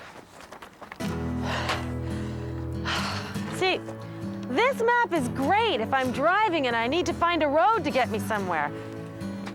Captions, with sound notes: ( sighs ) SEE, THIS MAP IS GREAT IF I'M DRIVING AND I NEED TO FIND A ROAD TO GET ME SOMEWHERE